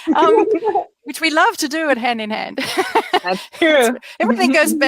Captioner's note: laughs